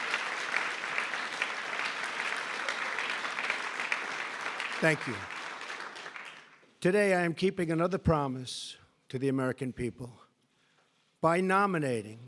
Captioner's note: applause